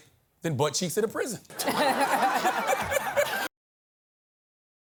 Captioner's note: laughter